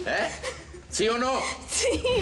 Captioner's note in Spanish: sollozos